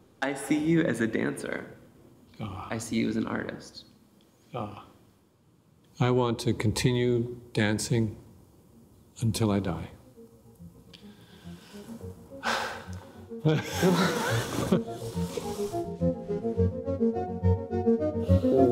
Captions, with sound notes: - I see you as a dancer. - Ah. - I see you as an artist. - Ah, I want to continue dancing until I die. [both laughing] [light orchestral music]